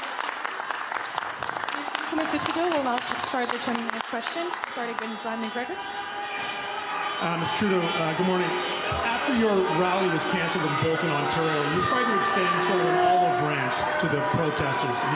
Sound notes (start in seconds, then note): 3.6 applause